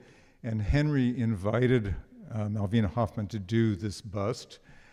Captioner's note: none